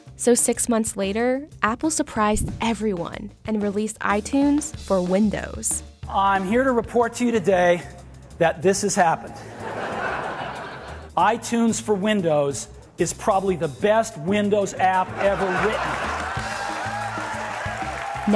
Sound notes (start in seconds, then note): 9.2 audience laughing; 15.0 audience clapping and laughing